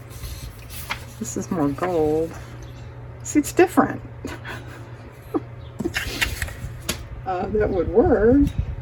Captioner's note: laughs